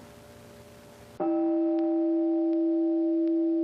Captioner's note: meditation chime